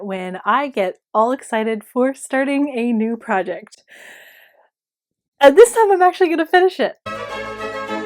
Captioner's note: deep breath